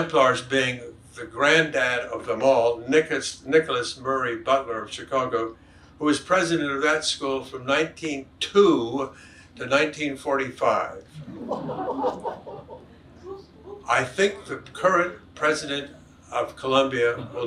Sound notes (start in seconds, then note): 11.1 audience chuckles